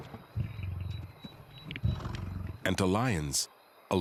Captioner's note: lion roaring